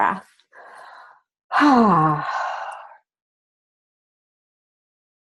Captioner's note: inhales, exhales loudly